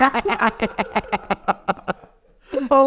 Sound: all laugh

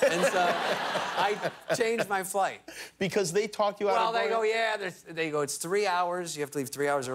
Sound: laughter

